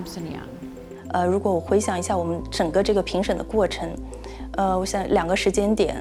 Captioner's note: Mandarin